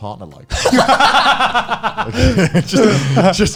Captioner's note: laughing